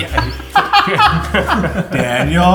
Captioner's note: laughs